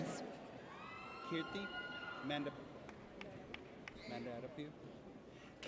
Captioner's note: audience cheers